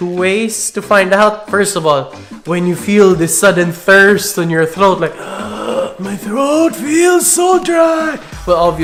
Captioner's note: ugggghhhh